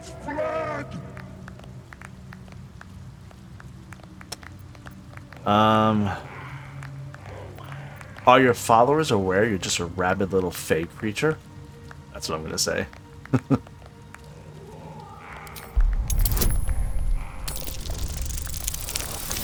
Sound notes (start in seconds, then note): 13.2 chuckles